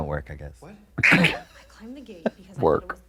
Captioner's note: blonde Women laugh